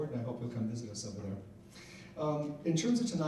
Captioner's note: none